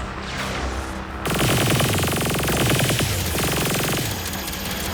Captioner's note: guns firing